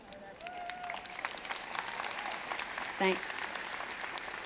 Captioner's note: crowd cheers